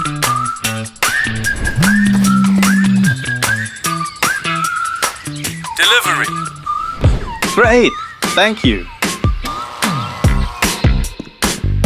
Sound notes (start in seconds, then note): 1.7 phone vibrating sound